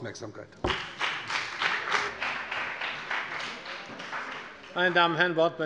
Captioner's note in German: Beifall bei der CDU und dem BÜNDNIS 90/DIE GRÜNEN